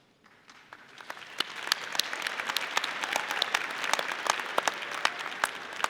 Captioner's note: audience applauding